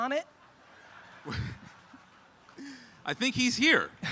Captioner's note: audience laughs